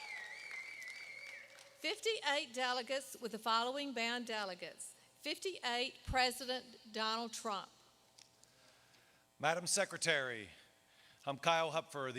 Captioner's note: cheers